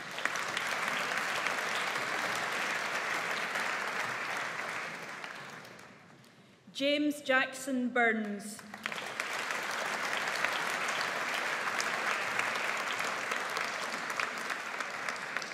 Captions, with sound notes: (AUDIENCE APPLAUDS) James Jackson Burns. (AUDIENCE APPLAUDS)